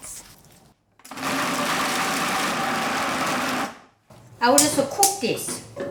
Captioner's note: food processor grinding